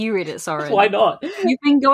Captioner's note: laughing